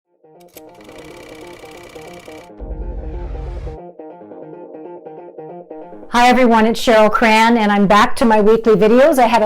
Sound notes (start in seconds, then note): 0.4 film wheel ticking; 0.6 upbeat music